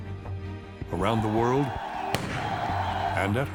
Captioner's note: crowd cheering, gunshot